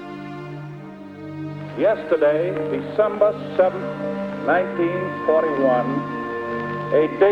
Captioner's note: Roosevelt On Radio